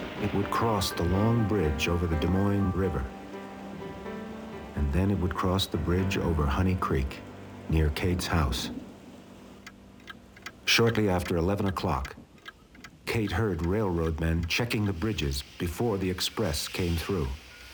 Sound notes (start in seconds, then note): 0.0 train whistle blaring; 9.9 clock ticking